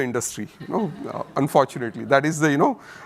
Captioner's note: audience chuckles